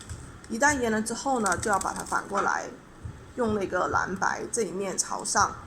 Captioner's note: explaining in Chinese